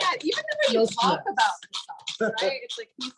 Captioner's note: laughs